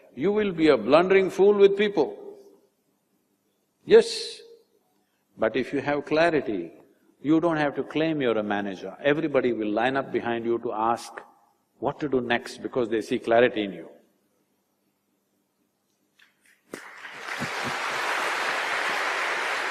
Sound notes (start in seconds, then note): 16.7 applause